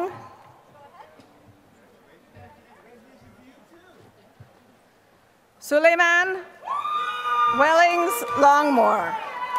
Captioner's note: applause